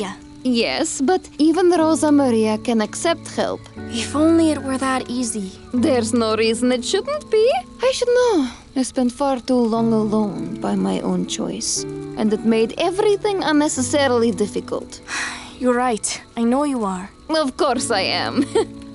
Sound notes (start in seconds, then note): 15.1 sighs